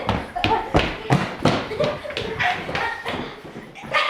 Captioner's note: laughing